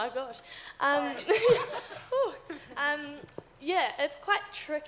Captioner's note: audience laughs